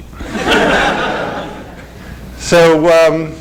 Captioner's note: laughter